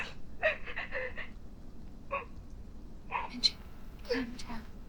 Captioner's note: Angela sobbing